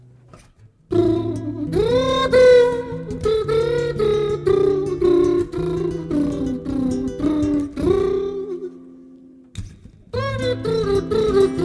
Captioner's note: mouth trumpet solo